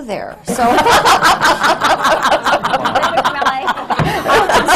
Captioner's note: laughter